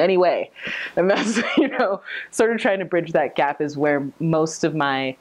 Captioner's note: laughing